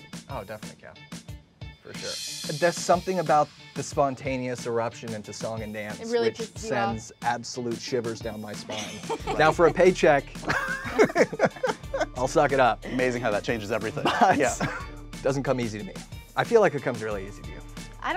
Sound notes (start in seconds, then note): 8.6 all laughing; 8.7 Kathryn laughing